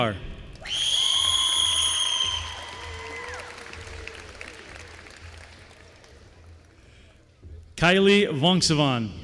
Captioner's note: applause